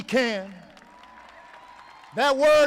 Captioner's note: applause